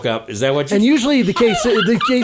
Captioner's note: all laughing